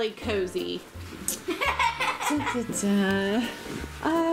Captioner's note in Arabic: ضحك